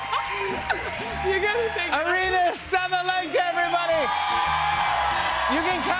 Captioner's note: laughs; cheers and applause